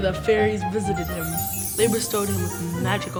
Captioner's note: magical jingling